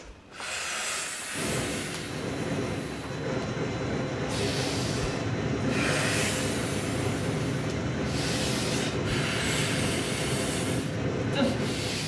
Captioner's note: distressed breathing; sounds of war from nightmare